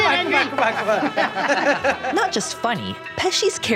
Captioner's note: laughing